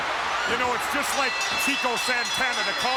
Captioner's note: bell rings